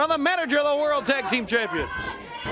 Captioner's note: crowd chatter